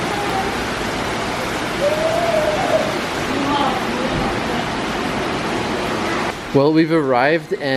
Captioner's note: rain sounds